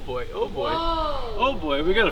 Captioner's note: shouting